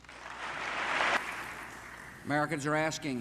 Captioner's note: audience applause